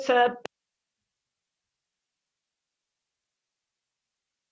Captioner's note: silence